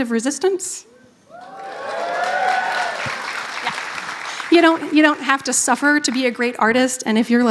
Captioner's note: applause